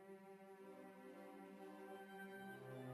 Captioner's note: none